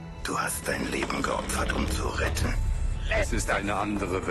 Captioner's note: galley creaking